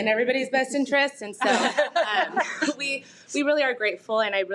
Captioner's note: audience laughing